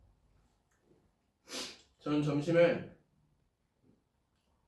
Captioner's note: sniff